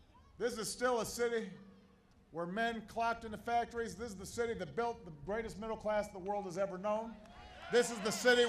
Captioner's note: applause